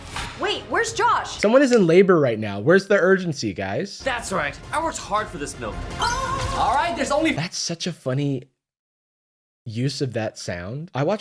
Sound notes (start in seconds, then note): 5.8 ahh sound sample